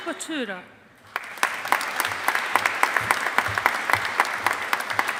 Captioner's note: audience applauding